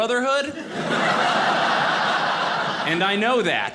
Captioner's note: audience laughing